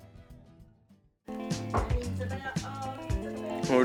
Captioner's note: mixed chatter